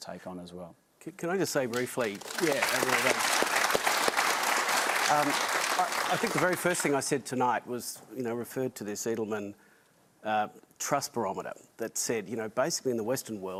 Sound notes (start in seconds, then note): 4.2 applause